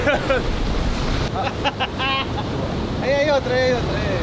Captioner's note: bursting into laughter